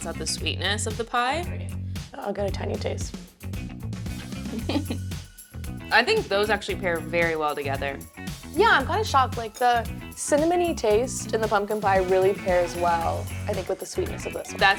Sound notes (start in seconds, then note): 4.4 chuckles; 4.7 upbeat music